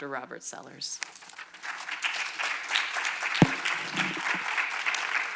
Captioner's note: audience applauds